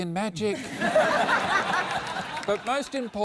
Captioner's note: laughter